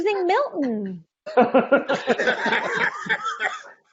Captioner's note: laughing